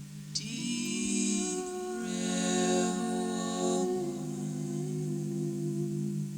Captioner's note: rhythmic wooing